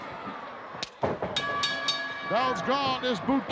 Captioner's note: bell dinging